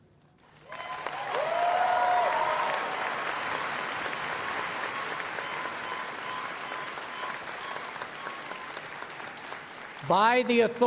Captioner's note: applause